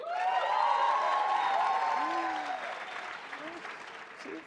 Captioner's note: audience cheers